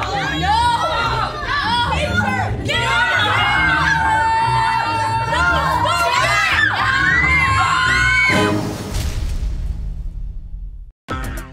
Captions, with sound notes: No! [screaming] No, stop it! [screaming]